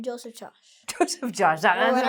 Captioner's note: laughs